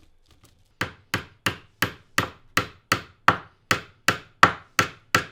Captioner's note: hammer banging